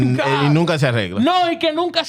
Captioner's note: speaking In Foreign Language